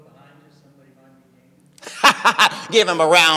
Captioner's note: laughing